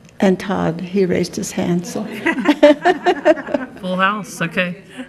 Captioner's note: laughing